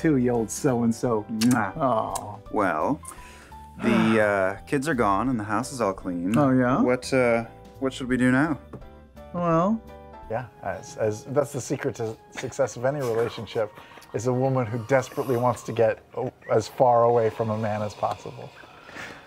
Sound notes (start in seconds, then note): 1.4 kissing noises